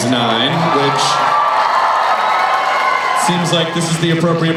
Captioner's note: cheering